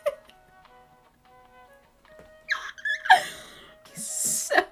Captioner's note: silent stunned giggles